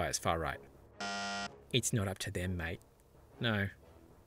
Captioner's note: buzzer